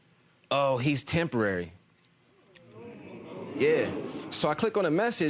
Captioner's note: audience murmuring